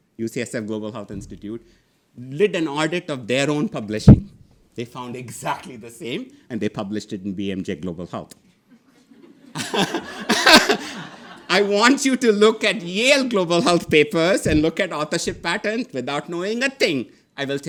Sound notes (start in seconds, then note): 8.8 audience laughing